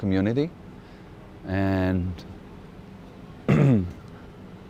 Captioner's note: clears throat